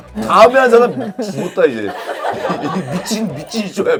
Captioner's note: haha